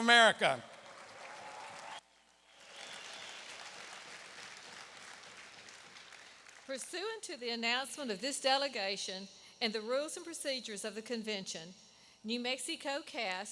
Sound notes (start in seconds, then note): 5.2 applause